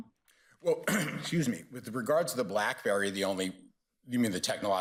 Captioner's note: coughs